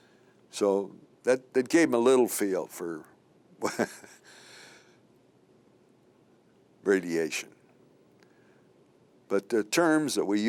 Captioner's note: chuckle